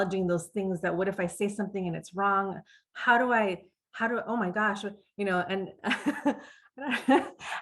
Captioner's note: laughs